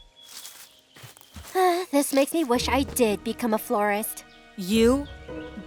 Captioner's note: sighs